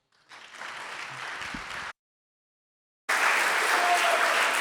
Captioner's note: audience applauding